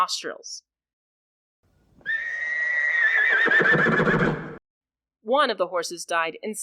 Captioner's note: louder horse screams